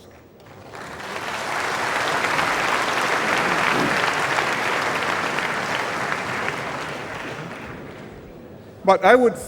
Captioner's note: applause